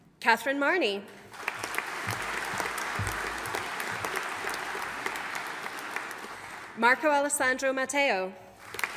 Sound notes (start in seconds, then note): 1.3 audience applauding